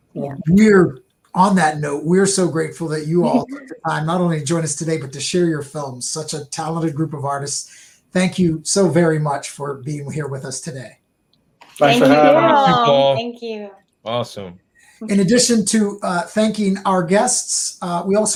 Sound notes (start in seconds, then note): 11.8 murmuring